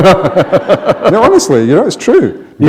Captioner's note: laughter